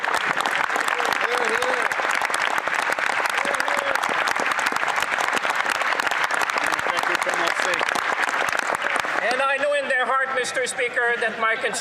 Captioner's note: applause